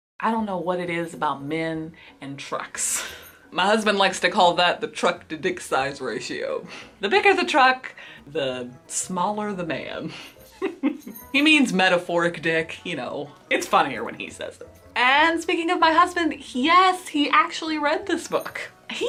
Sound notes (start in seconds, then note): 10.5 laughs